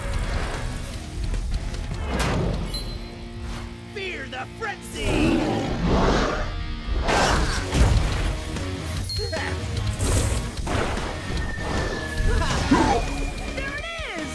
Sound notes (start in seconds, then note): 5.1 roaring; 6.3 clashing